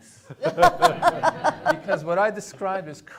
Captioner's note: attendees laughing